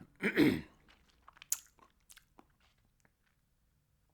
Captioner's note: clears throat